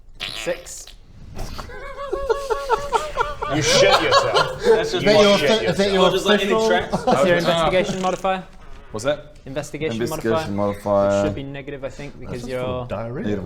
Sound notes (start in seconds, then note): 1.9 giggles